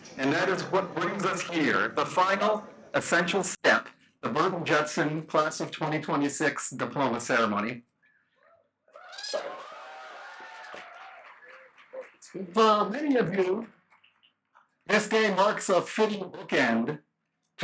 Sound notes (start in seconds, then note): 8.9 cheers, applause